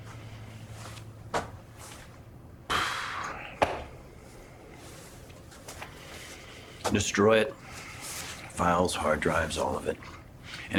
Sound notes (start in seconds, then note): 2.6 Joseph exhales